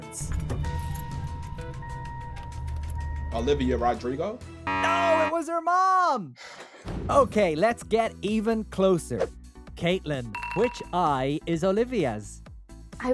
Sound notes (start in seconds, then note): 0.0 keys jangling; 0.6 car alarm rings; 4.5 buzzer beeps; 6.4 sighs